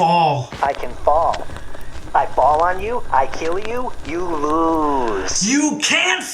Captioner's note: scratchy robot voice